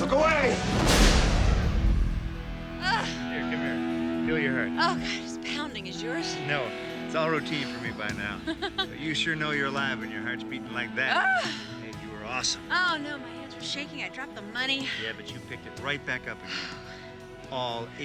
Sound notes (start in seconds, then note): 1.5 dramatic music; 8.4 Jill laughs